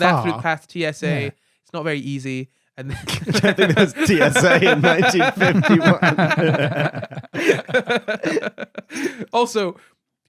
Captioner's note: laughing